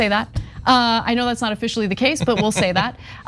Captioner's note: laugh